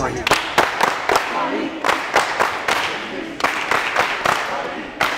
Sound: clapping and chanting

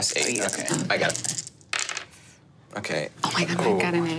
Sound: die taps table

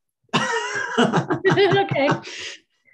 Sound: pair laughs

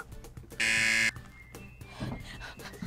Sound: buzzer

